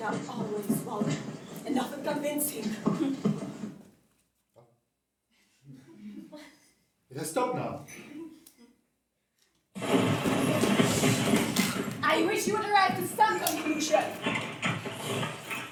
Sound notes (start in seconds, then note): 3.7 the noise stops